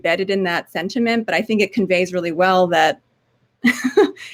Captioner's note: laugh